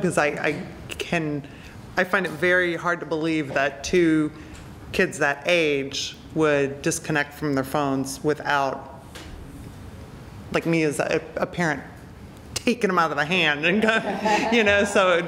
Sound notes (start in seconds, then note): 13.8 laughter; 13.8 laughs